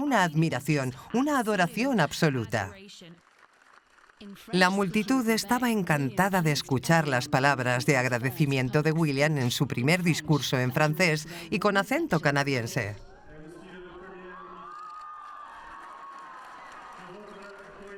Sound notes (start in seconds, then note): 12.4 Prince William speaking in French; 13.9 crowd cheers